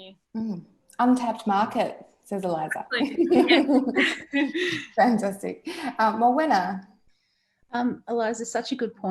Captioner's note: laughs